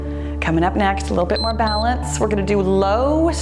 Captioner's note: timer beeps